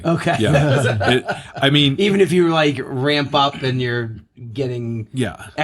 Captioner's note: laughing